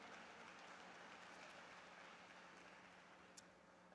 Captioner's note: applause